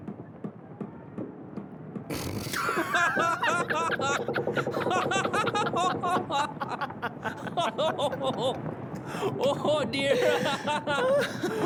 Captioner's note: through shaking laughter